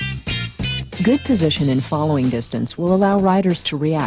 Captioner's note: voiceover